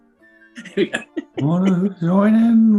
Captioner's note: laughing